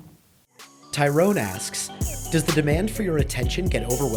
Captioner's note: voiceover